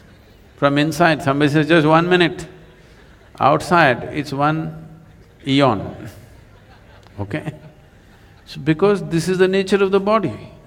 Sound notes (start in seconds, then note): 4.8 laughter